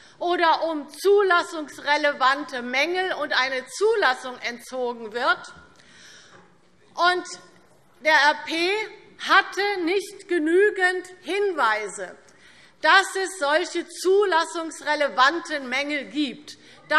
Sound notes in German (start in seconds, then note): none